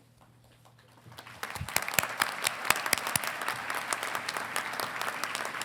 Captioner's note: congregation clapping